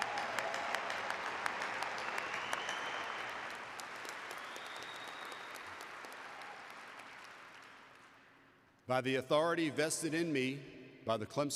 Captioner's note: applause